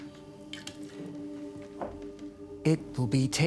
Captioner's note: liquid sloshing; bottle clinking